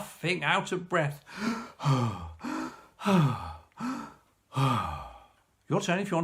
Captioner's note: deep breaths